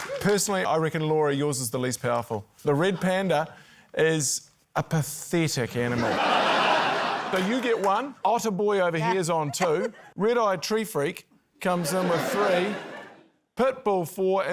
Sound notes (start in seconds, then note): 6.0 laughter